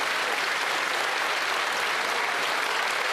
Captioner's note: some Applause